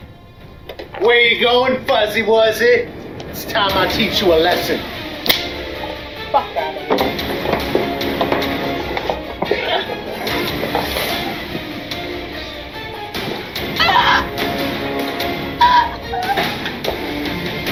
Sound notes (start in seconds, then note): 5.2 slap; 14.8 choking